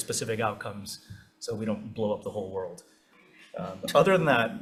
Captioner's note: laughs